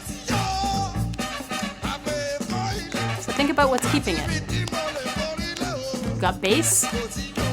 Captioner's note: clapping